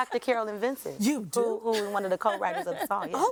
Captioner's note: person laughing